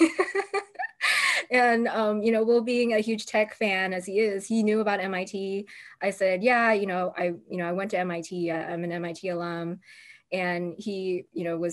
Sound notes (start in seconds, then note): 0.0 laughter